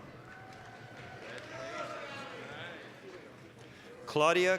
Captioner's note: applause, cheering